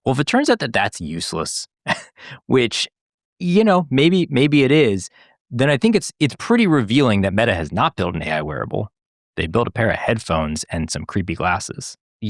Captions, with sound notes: well, if it turns out that that's useless, (scoffs) which, you know, maybe it is, then I think it's pretty revealing that Meta has not built an AI wearable. They built a pair of headphones and some creepy glasses.